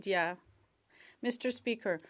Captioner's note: speaking French